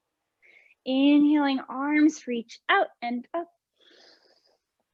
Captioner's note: inhaling